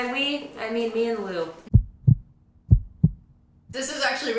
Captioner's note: heartbeat sound